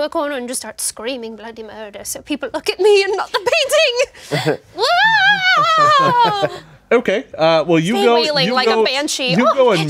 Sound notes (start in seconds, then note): 4.8 screams